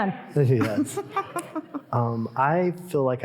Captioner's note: chuckling